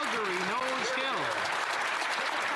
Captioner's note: some Applause